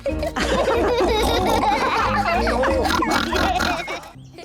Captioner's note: all giggle